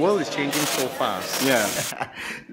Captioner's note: Glitch